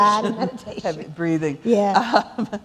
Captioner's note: laughter